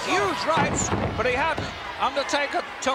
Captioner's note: body slams